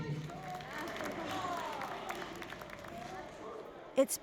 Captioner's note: applause and cheering